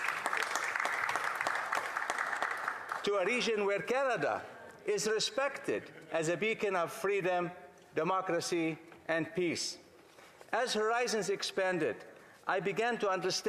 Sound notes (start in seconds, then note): 3.1 some Applause